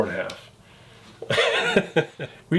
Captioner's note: laughs